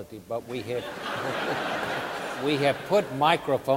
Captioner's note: audience laughing